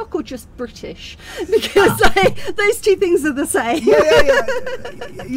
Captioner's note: laughing